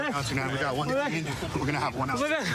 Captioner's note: excited chatter